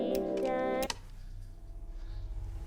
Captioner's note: clicks off